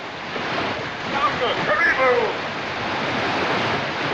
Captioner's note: shouting In African Language